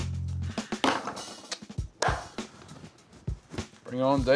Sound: loud clap

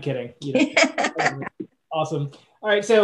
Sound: Roberta laughs

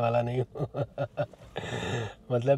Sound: laughs

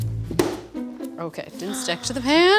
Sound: slam sound; gasps

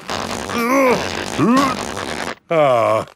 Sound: grunting

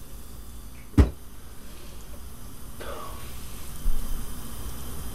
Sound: Jonah thumps surface

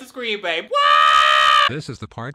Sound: screaming

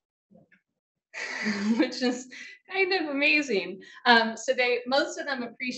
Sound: woman chuckling

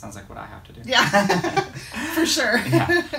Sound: both laughing

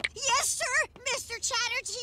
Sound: teeth chomp

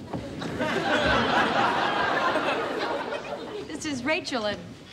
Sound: audience laughing

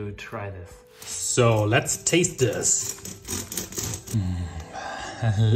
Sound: knife rasping

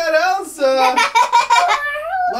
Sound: laughter

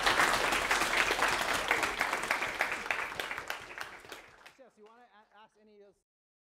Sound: applause

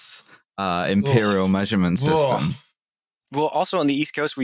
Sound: disgusted, disapproving noises

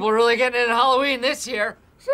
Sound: high-pitched voice

